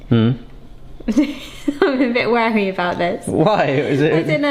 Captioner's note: chuckles